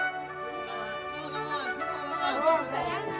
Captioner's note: paparazzi yelling